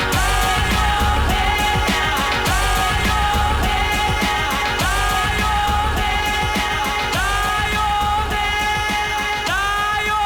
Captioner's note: laughs